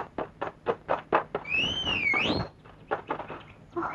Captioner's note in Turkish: Islık sesi